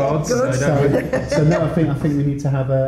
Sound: laughs

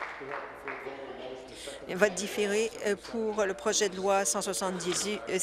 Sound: applause

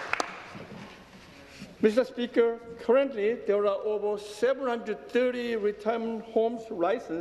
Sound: applause

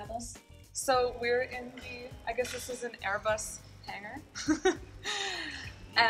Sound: laughs

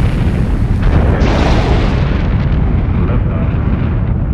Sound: rocked engine whooshing

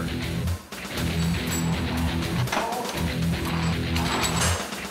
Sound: metal clanging

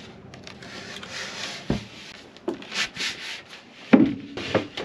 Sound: loading sounds

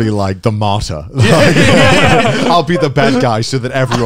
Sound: everyone laughs

